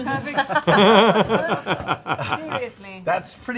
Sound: laughing

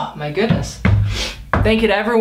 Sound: sniff

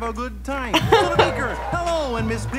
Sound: laughs

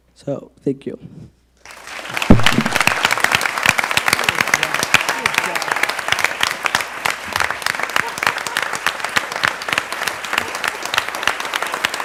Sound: applause

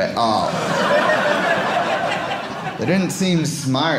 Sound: audience laughing

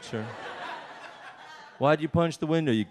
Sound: audience laughs

